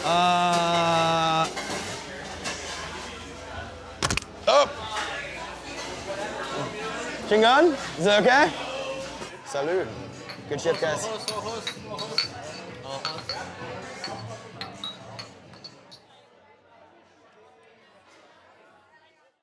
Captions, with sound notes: Uh... [camera clacking] Oh! Still on, is that okay? Salud. Good shift, guys. [glasses clinking]